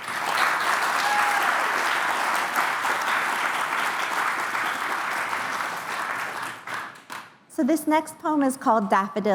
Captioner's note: applause